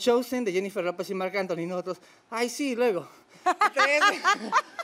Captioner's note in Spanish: Ríe